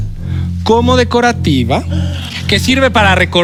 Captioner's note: gasps